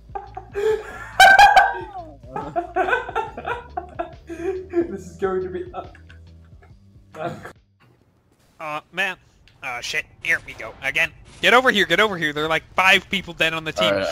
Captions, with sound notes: *slight laughter* *laughter* *death noise* *laughter* This is going to be eh- Ah man- Ah shit, here we go again. Get over here! Get over here! There are like five people dead on the team-